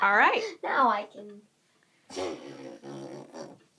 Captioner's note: raspberry noise